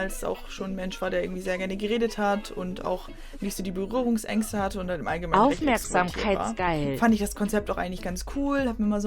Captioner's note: google voice: attentionseeking